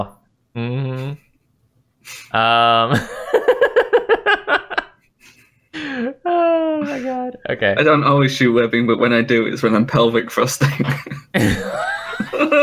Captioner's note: laughter